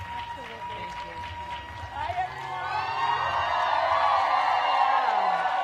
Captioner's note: applause